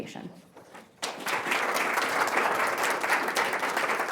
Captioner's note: audience applauding